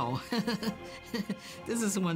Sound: laughs

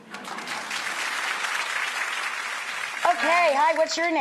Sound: audience clapping

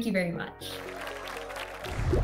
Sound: applause

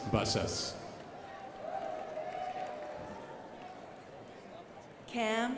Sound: crowd applauding

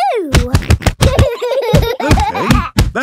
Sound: banging

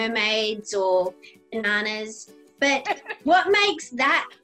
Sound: laughing

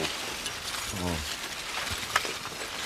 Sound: clinking trickle

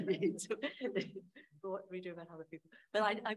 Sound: laughing

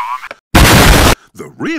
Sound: another very necessary explosion

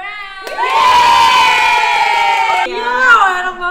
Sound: crowd cheering

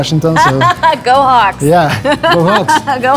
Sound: laughing

